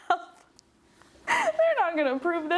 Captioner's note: laughing